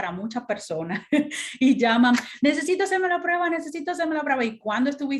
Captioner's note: laughter